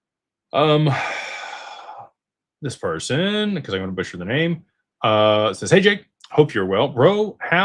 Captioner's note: sighs and gasps